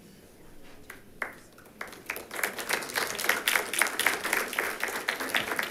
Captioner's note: attendants applauding